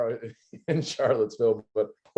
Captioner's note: laughter